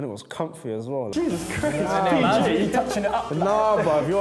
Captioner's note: laughing and mumbles